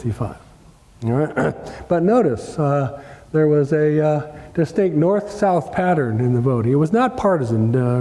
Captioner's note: cough